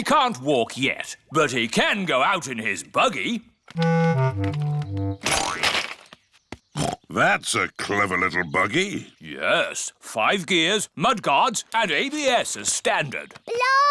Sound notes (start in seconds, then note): 7.1 snorts